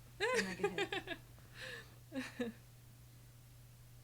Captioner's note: laughing